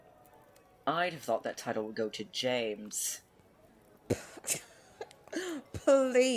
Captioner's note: Mary snorts